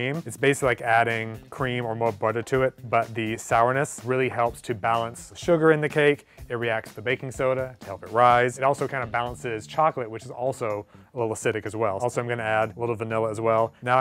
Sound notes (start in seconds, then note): none